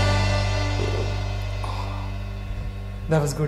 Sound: burps

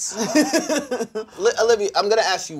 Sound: laughing

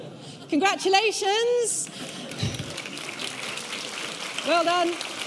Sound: audience applauding

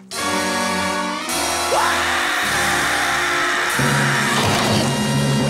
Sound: screaming

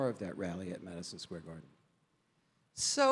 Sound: none

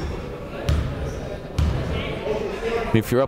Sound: chatting

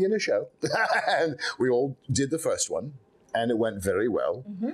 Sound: Lord Byron laughing

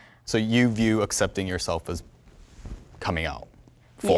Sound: none

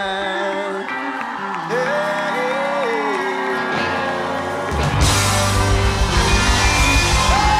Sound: crowd cheers

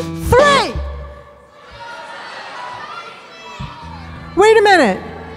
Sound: audience shouting

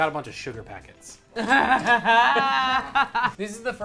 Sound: laughs

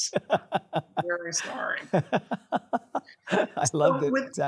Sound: laughing

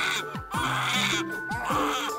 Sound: woman's Scream

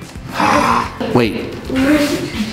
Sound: growls

